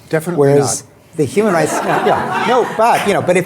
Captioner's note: laughter